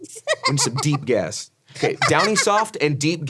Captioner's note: Ironmouse laughs